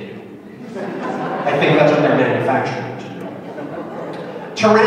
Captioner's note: laughter